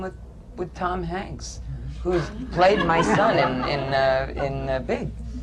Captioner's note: laughter